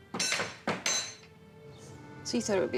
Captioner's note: door knocker clanking; fist rapping